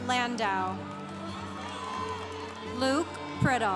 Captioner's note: congregation cheering